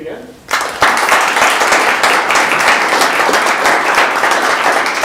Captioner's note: audience applauds